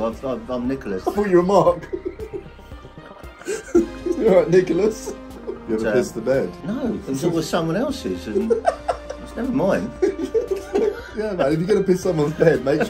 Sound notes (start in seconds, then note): 0.8 both laughing; 10.1 both laughing